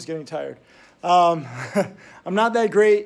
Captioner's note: Tim laughs